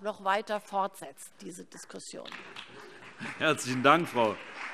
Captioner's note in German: Beifall BÜNDNIS 90/DIE GRÜNEN und vereinzelt CDU